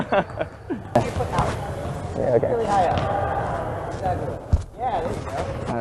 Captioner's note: laughing